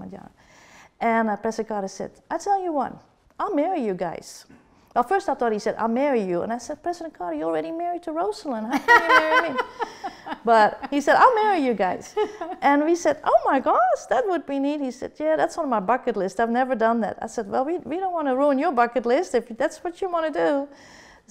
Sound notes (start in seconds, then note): 8.7 laughter